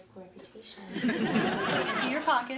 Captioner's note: audience laughing